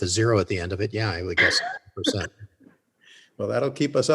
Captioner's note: laughs